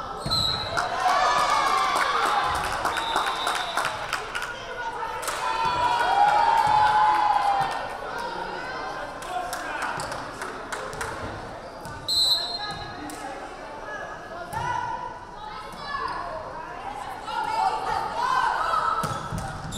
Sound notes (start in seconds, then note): 0.3 whistle blaring; 0.6 crowd cheering; 2.9 whistle blaring; 5.2 crowd cheering; 12.1 whistle blaring; 15.6 crowd calling out